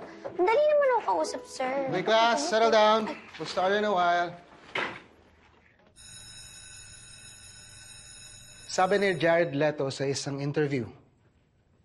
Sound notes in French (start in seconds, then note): 6.0 bell ringing